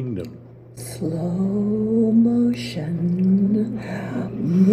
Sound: speaking slowly

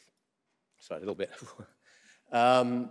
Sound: exhales

